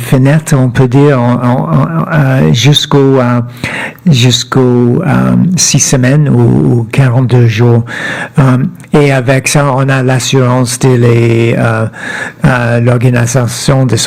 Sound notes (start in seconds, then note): 2.7 speaking French